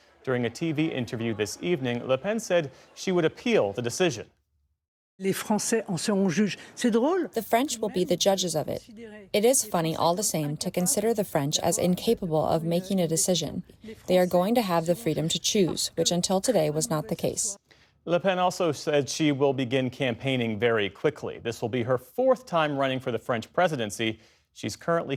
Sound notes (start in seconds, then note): 7.8 through translator